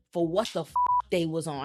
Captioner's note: beep